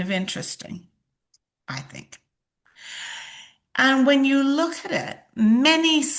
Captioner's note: sighs and gasps